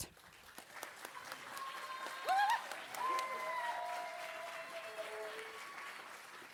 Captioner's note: audience applauding and cheering